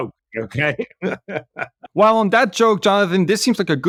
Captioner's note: laugh